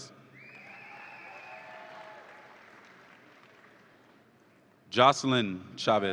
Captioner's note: audience applauds and cheers